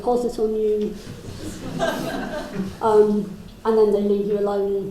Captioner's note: crowd laughs